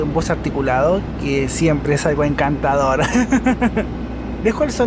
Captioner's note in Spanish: risas